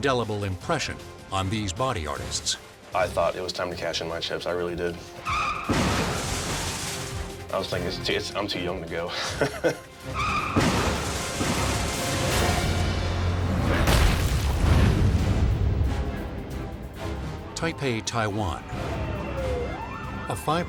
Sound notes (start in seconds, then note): 6.2 minivan slams; 10.6 dramatic music; 10.6 minivan slams; 13.8 logo slams